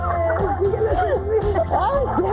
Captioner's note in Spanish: risas